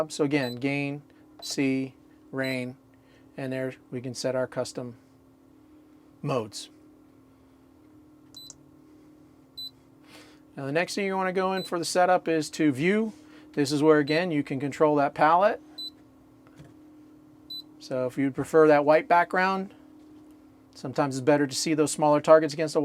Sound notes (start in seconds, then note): 7.0 buzzing sound; 16.0 beeping